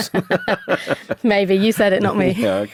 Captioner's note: both laugh